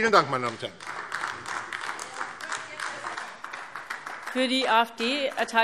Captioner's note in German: Beifall AfD